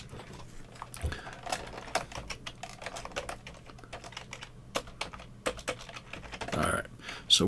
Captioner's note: keyboard clacking